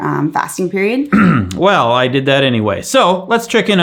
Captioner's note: clears throat